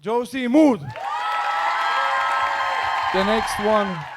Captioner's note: audience cheering